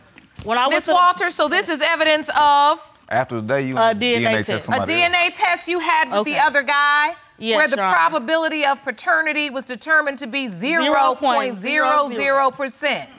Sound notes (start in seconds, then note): none